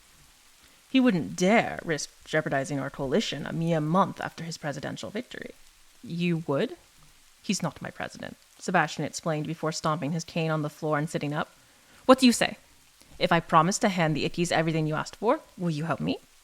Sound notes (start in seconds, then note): none